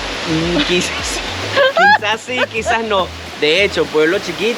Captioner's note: laughs